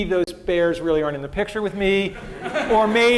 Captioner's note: laughter